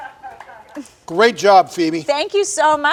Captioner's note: light laughter from audience